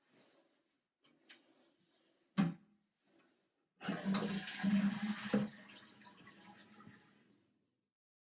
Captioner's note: toilet lid shuts, toilet flushes